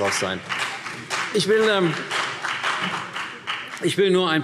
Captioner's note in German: Beifall CDU und BÜNDNIS 90/DIE GRÜNEN